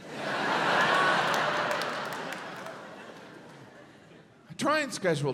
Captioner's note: audience laughs